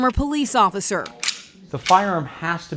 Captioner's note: gun clicks